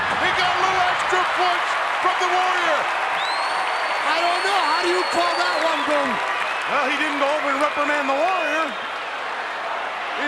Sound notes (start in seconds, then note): 2.6 crowd cheering